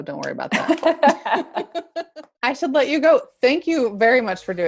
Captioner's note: laugh